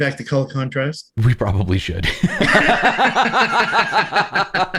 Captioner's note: laughter